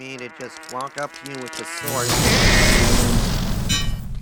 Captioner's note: violent explosion; screams